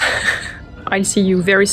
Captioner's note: laughs